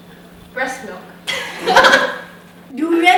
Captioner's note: laughter